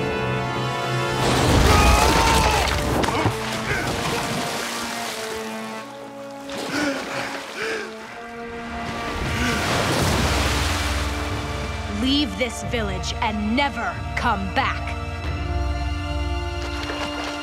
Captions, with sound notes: [screaming] [groaning] [gasping] Leave this village and never come back.